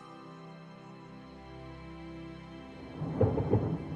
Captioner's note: thunder rumbling